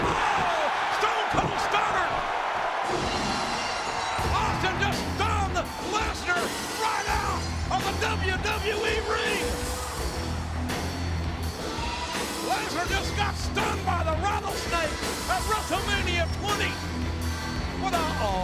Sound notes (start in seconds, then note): 0.0 audience cheering; 2.9 glass shattering